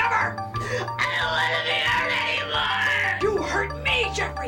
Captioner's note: crying